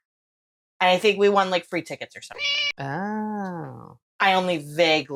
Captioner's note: meow